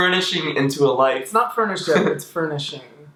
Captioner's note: laughs